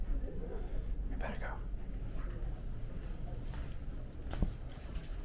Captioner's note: whispering